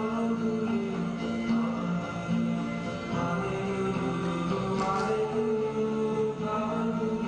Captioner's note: tape stops